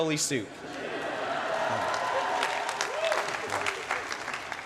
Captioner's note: cheering